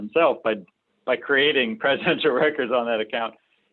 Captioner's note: laughs